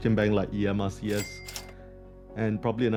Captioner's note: till ringing